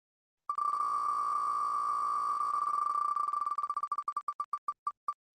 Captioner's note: ticking of wheel spinning